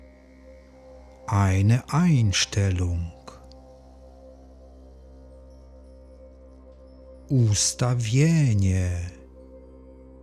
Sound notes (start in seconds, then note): 2.8 german